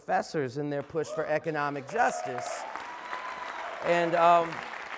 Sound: applause

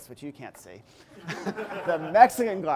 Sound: laughing

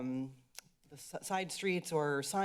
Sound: clicks tongue

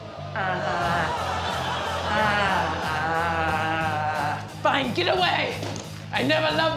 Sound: audience groaning

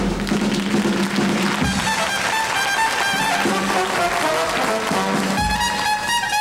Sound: audience applauds; bright trumpet music

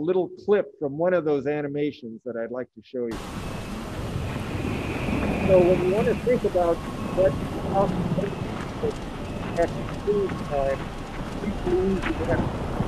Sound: wind and rain noise

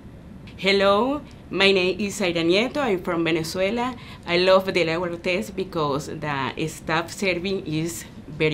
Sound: in English

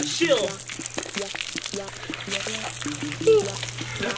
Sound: splashing

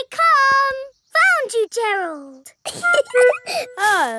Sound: giggling

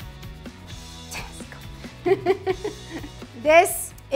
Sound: laughs

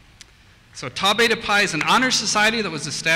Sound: voiceover

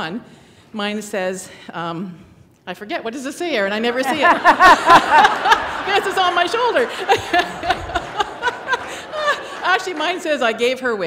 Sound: laughter

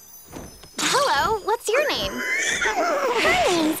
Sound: whinnies

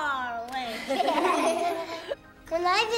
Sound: kids laughing

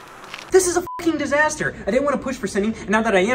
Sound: beep

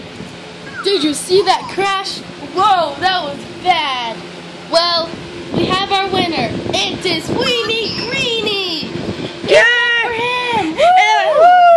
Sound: crowd cheering

